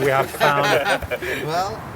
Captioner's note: laughs